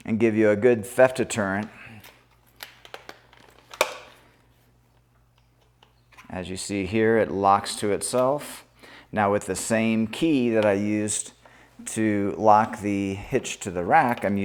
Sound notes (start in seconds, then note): 3.8 security cable clatters